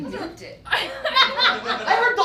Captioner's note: audience laughs